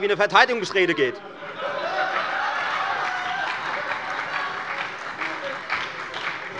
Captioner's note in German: Beifall bei der FDP und der SPD